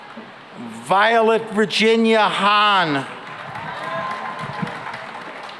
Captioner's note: cheering and applause